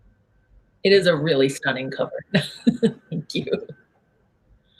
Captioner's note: laughs